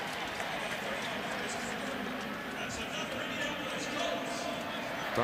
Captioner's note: pa announcement